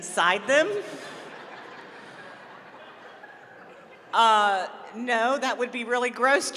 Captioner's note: laughter